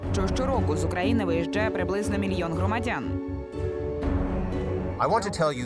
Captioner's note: speaking foreign language